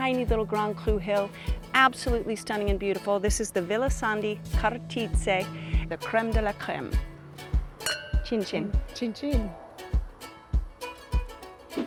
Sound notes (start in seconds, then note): 7.8 glasses clinking; 11.7 upbeat music